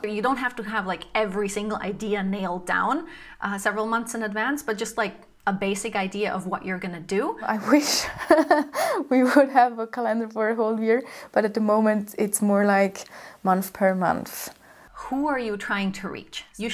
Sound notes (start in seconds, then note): 7.8 chuckles softly